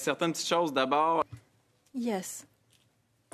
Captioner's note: speaking French